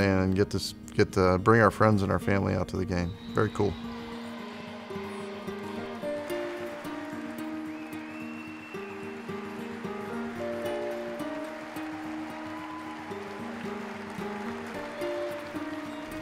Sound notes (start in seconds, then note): 4.2 crowd cheers and whistles; 4.2 gentle guitar music; 10.3 crowd claps and cheers